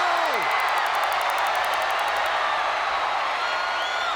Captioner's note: stun gun zapping